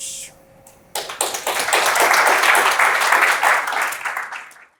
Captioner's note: applause